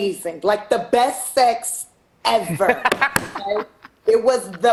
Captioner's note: laughing